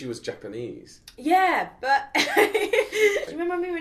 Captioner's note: laughs